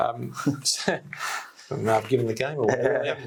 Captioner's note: both chuckle; laughing